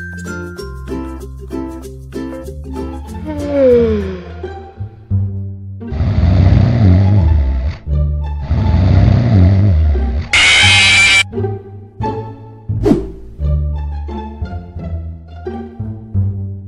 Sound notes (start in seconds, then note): 3.3 animatronic sigh; 5.9 growl/snore; 8.4 snore; 10.1 jumpscare